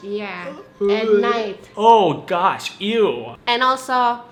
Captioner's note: gags